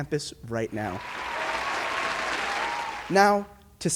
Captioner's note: audience applauds